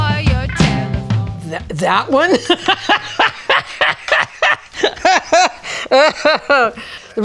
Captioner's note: laughs